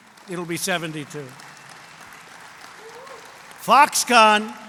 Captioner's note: applause